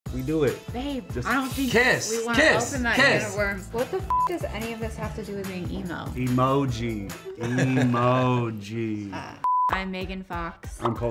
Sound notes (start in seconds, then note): 4.0 beep; 7.2 laughing